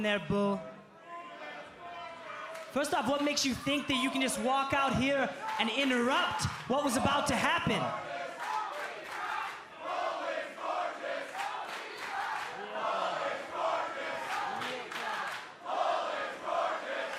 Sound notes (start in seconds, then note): 8.6 crowd chatter; 10.2 crowd cheering; 16.0 crowd cheering